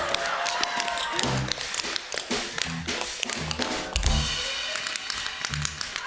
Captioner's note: tapping